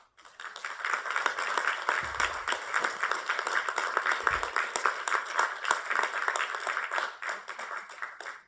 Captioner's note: applause